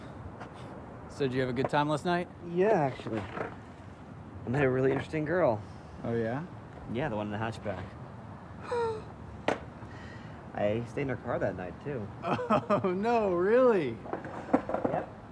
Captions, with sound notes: So did you have a good time last night? Yeah, actually. I met a really interesting girl. Oh, yeah? Yeah, the one in the hatchback. [gasps] I stayed in her car that night too. - Oh, no, really? - Yep.